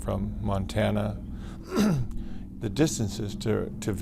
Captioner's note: clears throat